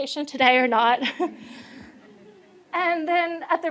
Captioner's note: laughter